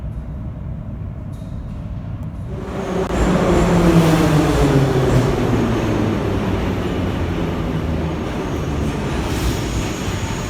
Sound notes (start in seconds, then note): 6.0 arrival of train at the station